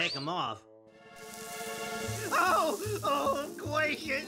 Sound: heat sizzles

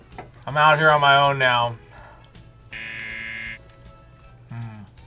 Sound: buzzer

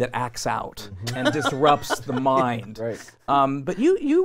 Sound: laughing

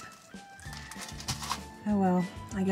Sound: plastic rustling

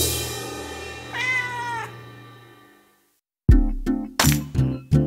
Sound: cat meowing

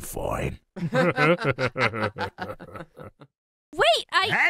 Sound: laughs

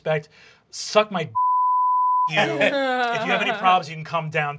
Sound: beeping

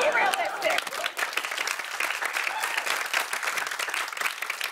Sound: applause

